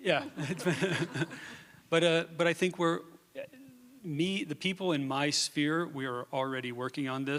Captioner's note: laughs